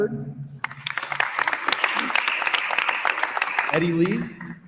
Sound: attendees applauding

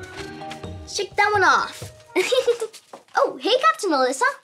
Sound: upbeat music; giggles

